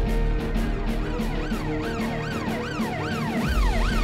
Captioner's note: Siren wails